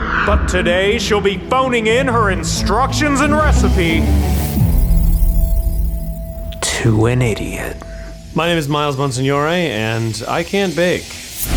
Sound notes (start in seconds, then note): 4.2 electronic chirping; 11.3 thrilling music